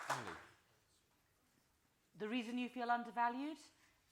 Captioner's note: applause